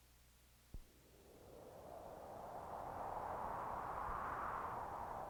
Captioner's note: wind whooshing